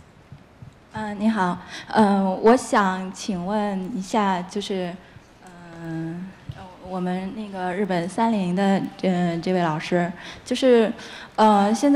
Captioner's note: speaking in Chinese